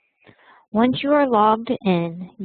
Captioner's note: Vietnamese